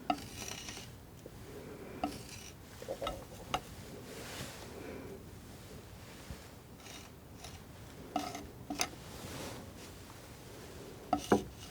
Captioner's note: tapping